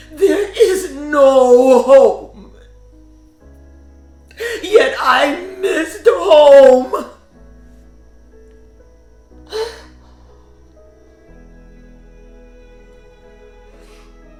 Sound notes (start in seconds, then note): 0.0 somber music continues; 7.3 somber music; 9.5 sobs; 10.9 somber music continues